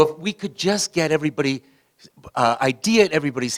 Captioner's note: none